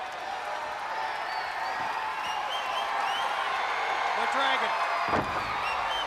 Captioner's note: crowd cheering